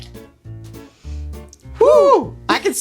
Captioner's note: liquid pouring; inhales